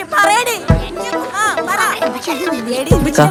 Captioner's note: continues quarelling